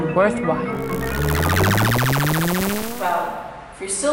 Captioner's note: time warp sound